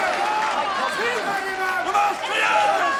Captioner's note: crowd yelling